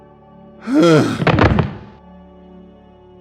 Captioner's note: thuds